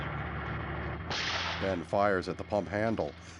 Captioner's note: gunshot